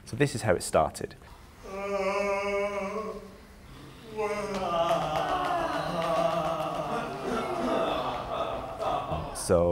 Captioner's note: performers yawn, make warm-up noises